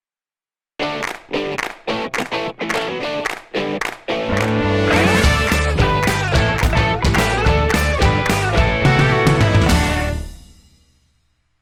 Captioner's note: claps